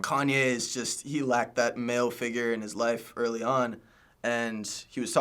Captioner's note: none